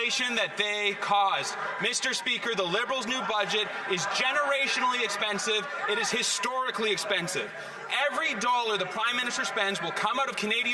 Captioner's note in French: voix de l'interprète